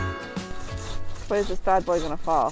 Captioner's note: upbeat music; sawing